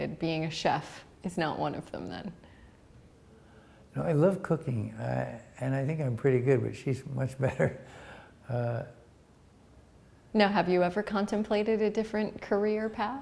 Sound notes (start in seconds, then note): 7.5 chuckle